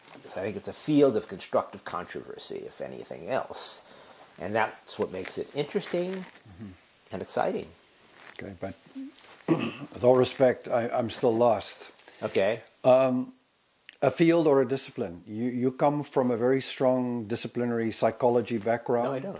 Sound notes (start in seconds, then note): 9.4 cough